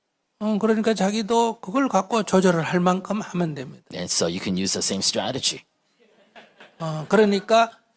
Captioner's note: audience Laughter